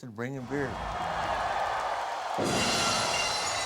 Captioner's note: applause